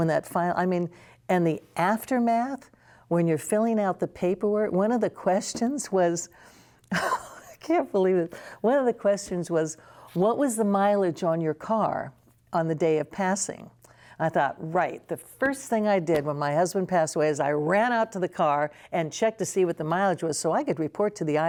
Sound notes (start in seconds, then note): 6.7 laughter